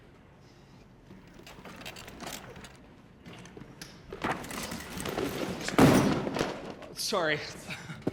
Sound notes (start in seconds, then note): 4.1 cases shuffling and thudding